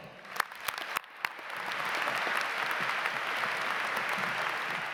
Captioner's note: audience clapping